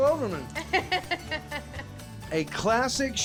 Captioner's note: chuckling